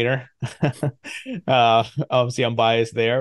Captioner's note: laughs